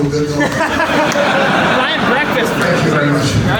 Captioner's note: audience laughs